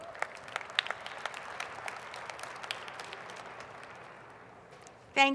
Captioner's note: applause